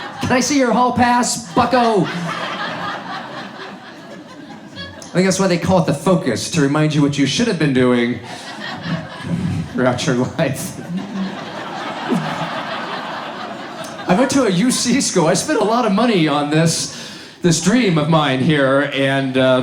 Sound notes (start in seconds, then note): 2.7 audience laughs; 11.1 audience laughs